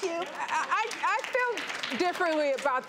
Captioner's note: audience claps